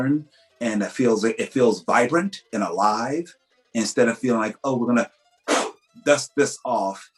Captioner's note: blows on dusty script